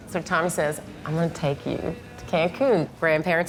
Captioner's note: none